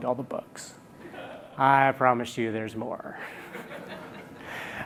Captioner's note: l aughter; laughter